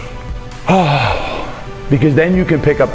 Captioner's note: sharp exhale